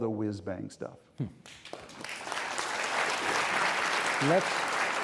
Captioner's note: audience applauding